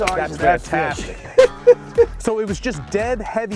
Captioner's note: chuckles